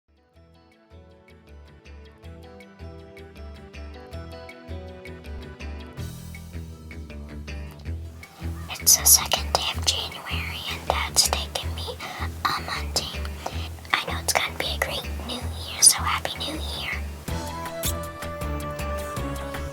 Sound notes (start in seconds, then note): 7.2 whispering